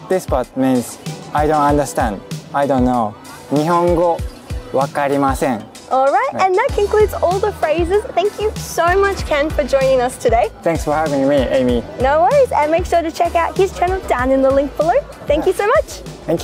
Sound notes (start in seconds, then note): 4.0 speaking in Japanese